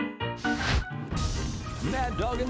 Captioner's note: jaunty piano music; fire crackling